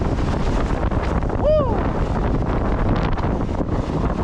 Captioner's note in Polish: odgłos wody